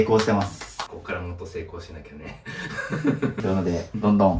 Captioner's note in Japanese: 笑い